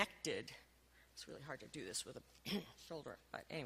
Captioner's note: clears throat